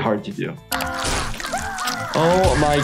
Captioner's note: blood squirting; Sniffles screaming